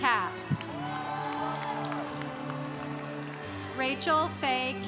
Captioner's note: congregation cheering